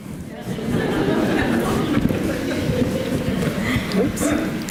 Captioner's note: audience laughs